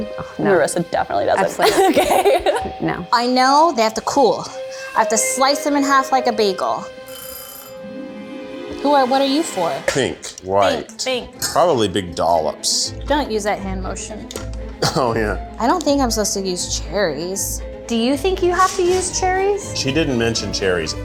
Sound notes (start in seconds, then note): 1.4 laughing; 7.0 timer dings